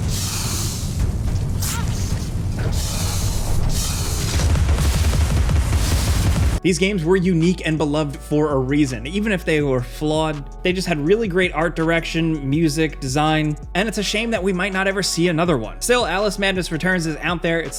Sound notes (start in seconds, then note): 1.5 monster hisses; 3.8 weapon fires